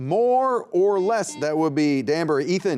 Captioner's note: buzzer beeping